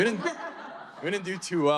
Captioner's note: audience laughing